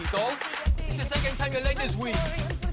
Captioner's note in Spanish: Habla en otro idioma